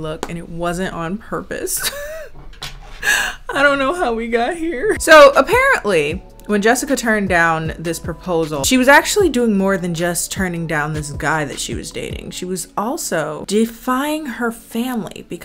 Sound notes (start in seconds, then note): 1.8 laughs sarcastically